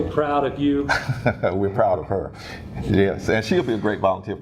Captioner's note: laugh